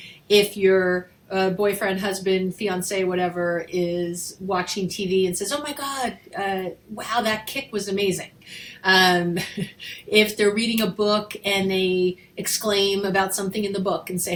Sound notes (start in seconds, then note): 9.3 chuckles